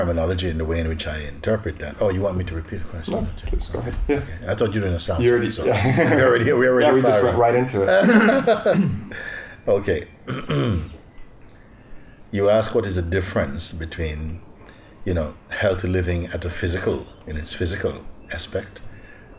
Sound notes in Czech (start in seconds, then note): 7.9 Smích